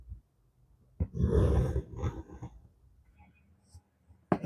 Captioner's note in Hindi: कराहने की आवाज़